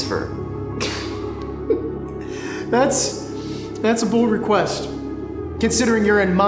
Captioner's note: chuckles